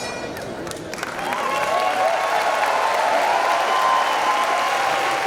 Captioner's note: applause